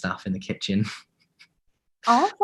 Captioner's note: laughs